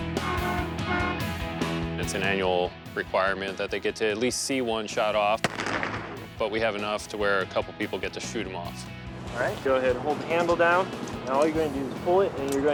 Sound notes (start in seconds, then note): 0.0 upbeat rock music; 0.0 horn honks; 5.5 bangs